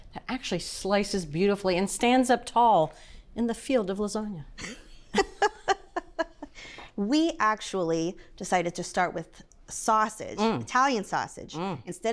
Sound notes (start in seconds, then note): 5.4 laughs